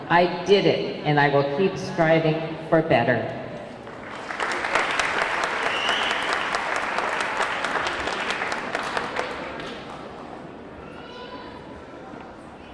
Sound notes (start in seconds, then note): 3.8 audience clapping; 4.3 audience cheering